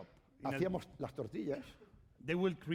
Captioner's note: speaking spanish